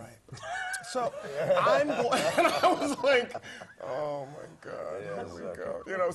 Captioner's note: laugh